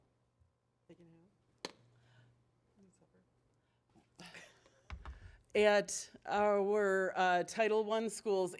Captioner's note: away from microphone